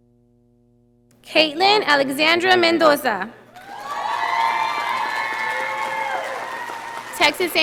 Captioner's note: audience applauding